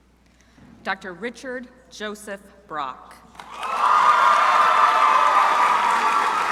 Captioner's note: crowd cheering